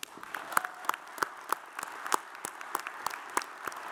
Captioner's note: audience applauds